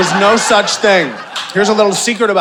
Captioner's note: audience laughing